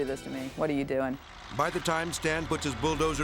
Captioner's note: bulldozer humming